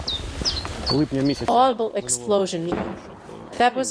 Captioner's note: audible explosion